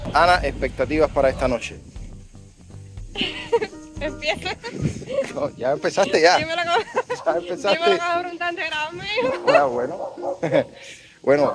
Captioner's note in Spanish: risas